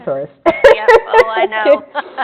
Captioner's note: laughs